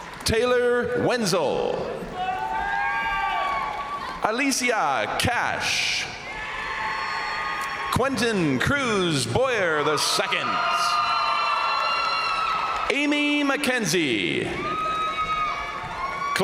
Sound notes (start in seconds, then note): 0.0 crowd applauding; 0.0 crowd cheering; 2.1 crowd applauding; 2.1 crowd cheering; 5.8 crowd cheering; 6.6 crowd applauding; 9.6 crowd applauding; 10.6 crowd cheering; 14.4 crowd cheering; 14.5 crowd applauding